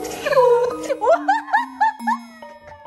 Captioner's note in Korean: 대폭소